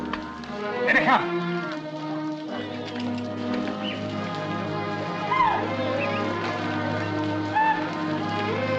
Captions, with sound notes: Here they are! [ CATTLE MOOING ] [ MEN WHISTLING ]